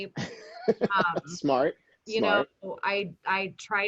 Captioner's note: laughing